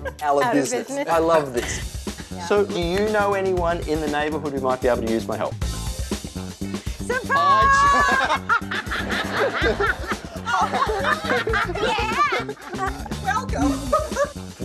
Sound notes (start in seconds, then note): 5.9 upbeat music; 7.4 people laughing